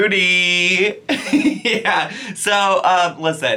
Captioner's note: laughs